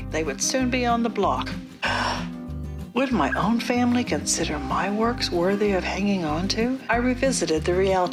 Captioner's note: gasp!!